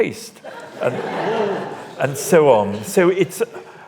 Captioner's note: audience laughs